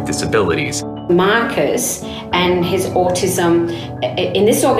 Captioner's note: woman voice over